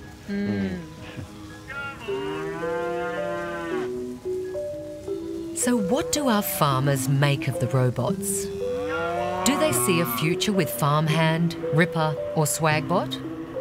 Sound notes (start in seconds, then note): 3.2 cow moos